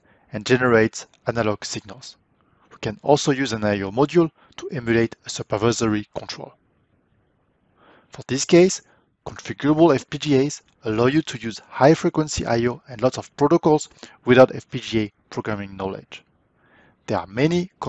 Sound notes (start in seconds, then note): 16.5 breathe